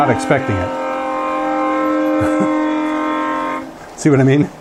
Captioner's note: sound of loud train horn